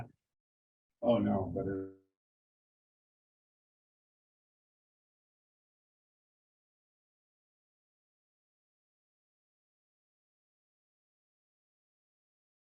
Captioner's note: audio drop